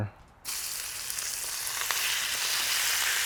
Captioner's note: sizzling